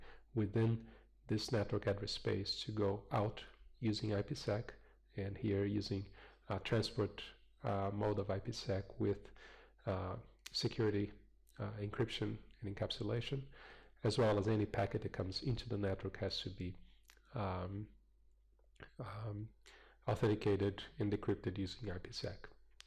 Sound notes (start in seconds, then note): 17.0 pause